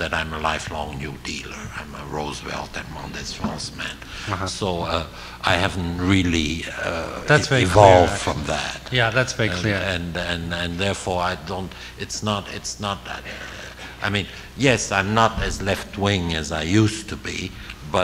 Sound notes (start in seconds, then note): 3.5 foreign language 00:21:03